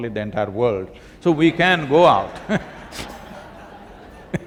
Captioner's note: laughter